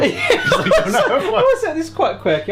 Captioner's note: laughing